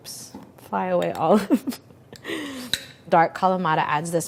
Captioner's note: laughing